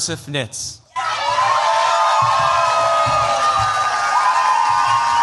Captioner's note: cheers, applause